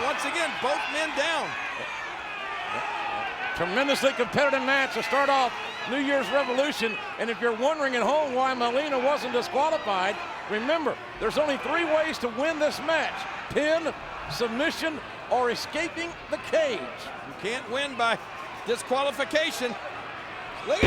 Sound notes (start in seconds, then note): 3.3 audience cheering